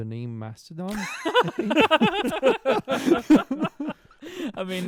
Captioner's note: laughter